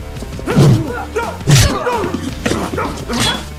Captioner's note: The Bishop grunts